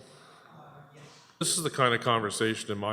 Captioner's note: audio drop